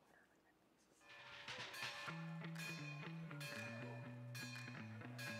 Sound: bells ringing

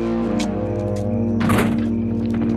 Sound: doors close

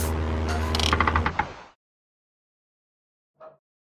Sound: music stops; propeller motor stops

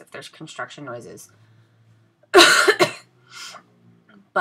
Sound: coughs

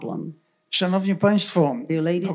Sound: foreign language

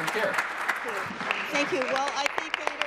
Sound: applause

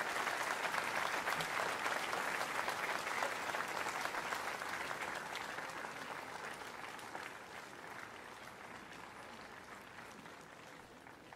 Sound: cheers and Applause

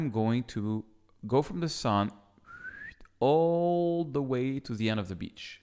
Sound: whistles

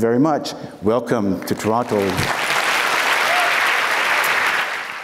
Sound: applauds

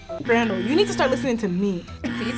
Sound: buzzer buzzing

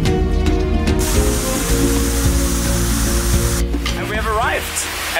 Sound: water falls

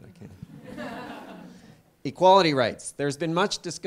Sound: laugh

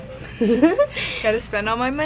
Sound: giggles

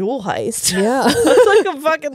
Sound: both laughing

